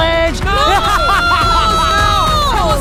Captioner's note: laughing; screaming